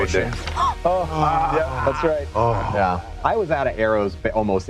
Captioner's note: dice rolling